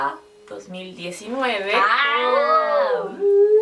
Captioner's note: surprised exclamation